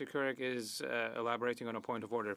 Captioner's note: speaking French